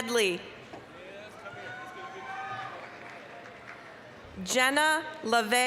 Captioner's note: applause, cheering